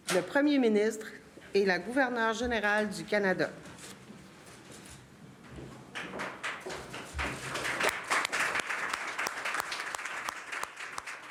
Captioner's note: speaking french